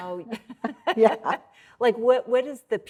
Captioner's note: laughing